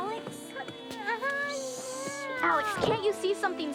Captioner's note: crying